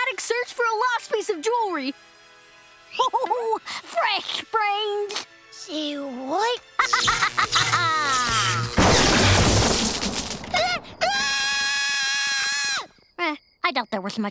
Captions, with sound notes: for a lost piece of jewelry! Ho, ho, ho! Fresh brains! Say what? [laughing] [screaming] Eh, I doubt there was much brain